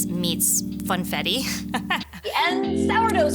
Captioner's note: laughing